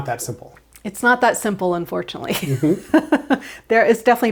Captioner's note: chuckles